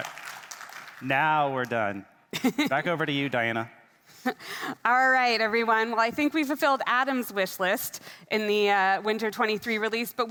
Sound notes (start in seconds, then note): 2.3 laughing; 4.2 chuckles